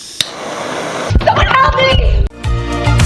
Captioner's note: blow Torch Sound; intro Music